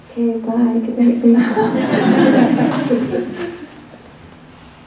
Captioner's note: laughs